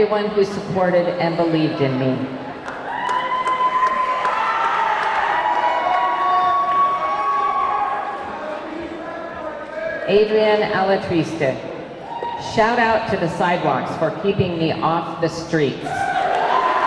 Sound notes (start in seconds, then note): 2.6 audience clapping; 2.6 audience cheering; 16.0 audience cheering; 16.2 audience clapping